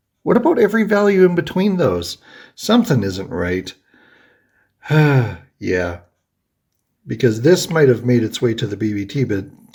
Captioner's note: sighs